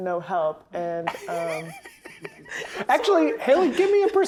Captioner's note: laughing